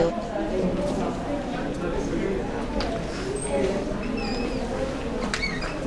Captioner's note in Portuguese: Vozes